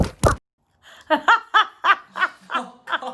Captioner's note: laughs